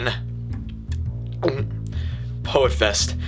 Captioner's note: The Poet audibly gulps